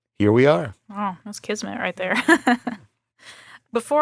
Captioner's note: laughs